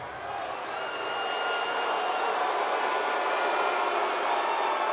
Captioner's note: audience cheers